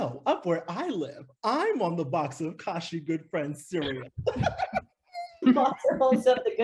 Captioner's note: giggles